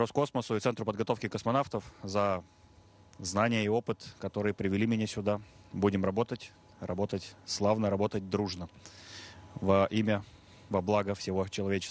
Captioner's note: speaking russian